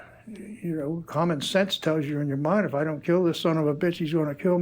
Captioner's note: sighs